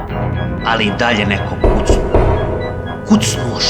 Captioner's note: knocking